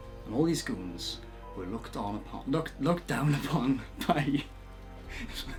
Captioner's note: laughs